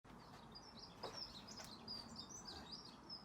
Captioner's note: birdsong